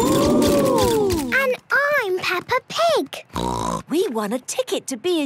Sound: snort

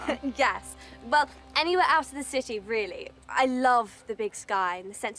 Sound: laughs

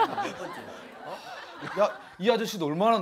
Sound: laughing

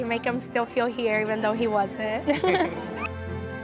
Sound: both laughing

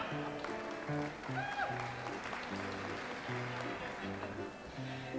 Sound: audience applauds

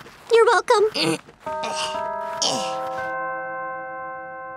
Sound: organ chimes; grunting

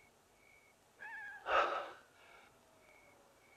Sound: chuckles

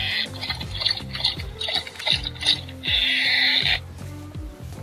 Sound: balloon squeaks

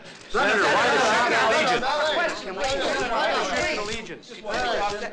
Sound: reporters clamoring

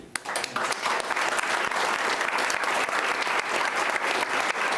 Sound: applauding

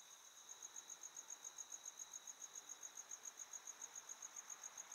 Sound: cricket chirping

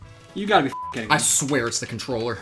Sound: beeps

